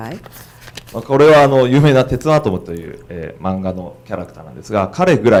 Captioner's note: speaking foreign language